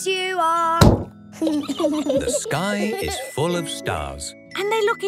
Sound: giggling

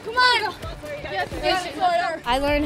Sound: encouraging banter

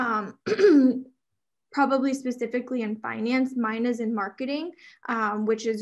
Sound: clears throat

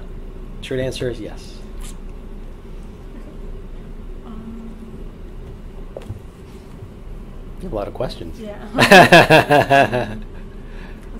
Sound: laughs

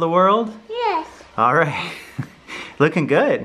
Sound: chuckles

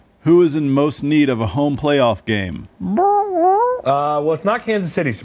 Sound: squawks

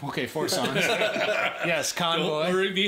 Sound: everyone laughing

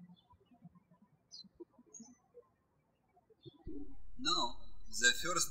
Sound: birds chirping

